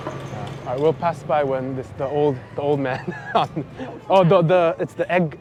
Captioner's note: laughs